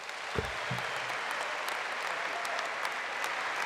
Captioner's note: applause